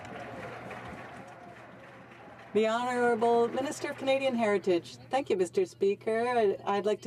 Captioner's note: some Applause